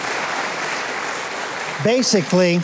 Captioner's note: crowd clapping